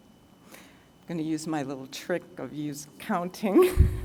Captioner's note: laughs